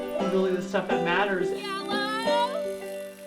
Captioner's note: shouts